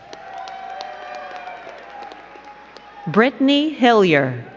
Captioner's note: crowd cheering and clapping